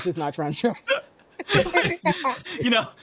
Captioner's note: laughing